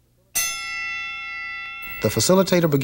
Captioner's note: bell rings